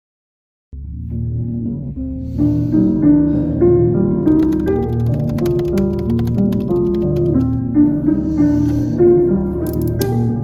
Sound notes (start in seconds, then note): 0.9 distorted piano music; 1.9 keyboard clicking